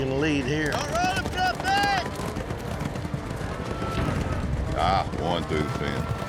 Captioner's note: hoofbeats